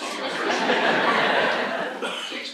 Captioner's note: laughter